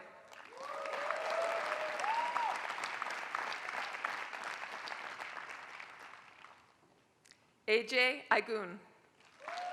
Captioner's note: applause; applause